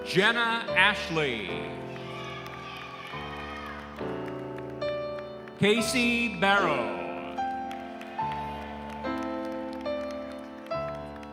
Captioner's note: applause